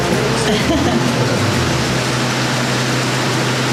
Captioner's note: laughs